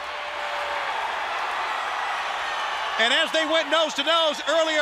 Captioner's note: crowd cheering